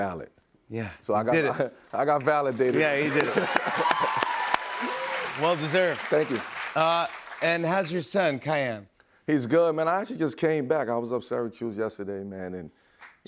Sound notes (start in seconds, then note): 2.2 cheers and applause